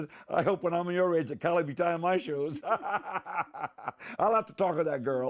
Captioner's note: laughing